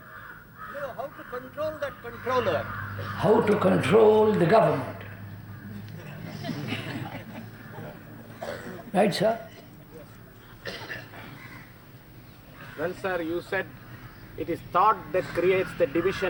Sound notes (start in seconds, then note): 5.8 laughter